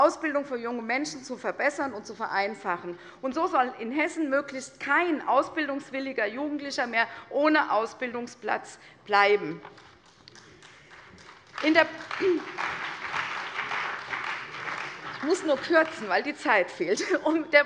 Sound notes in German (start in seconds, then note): 9.6 Beifall bei der CDU und dem BÜNDNIS 90/DIE GRÜNEN